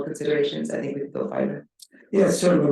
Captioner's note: speaking faintly